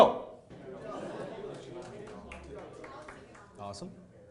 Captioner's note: people chattering; sporadic clapping